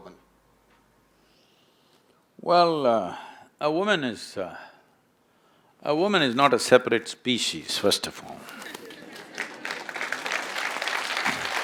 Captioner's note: laughter/Applause